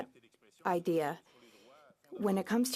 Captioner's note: speaking French